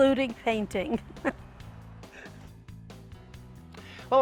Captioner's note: both laugh